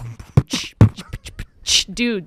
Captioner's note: beatboxing